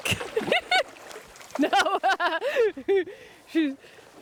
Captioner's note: water gurgling